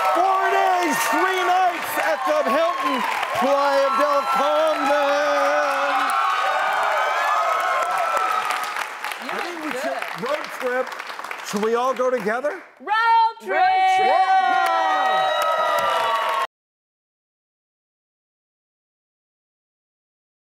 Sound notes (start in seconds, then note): 13.6 audience cheers